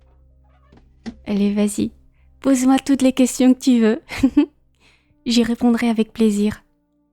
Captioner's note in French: rires